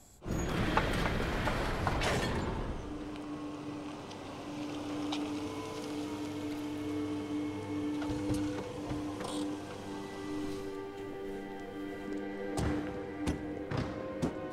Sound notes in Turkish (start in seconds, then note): 0.2 Kapı açılma sesi